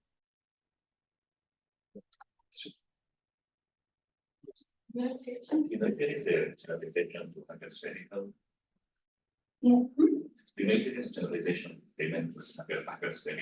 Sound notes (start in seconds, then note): 5.1 audio distorting